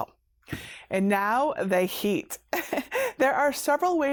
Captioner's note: chuckles